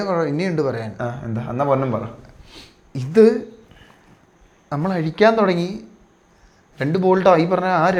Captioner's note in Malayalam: ചീറ്റുന്നു